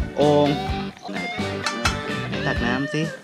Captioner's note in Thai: เสียงเคาะ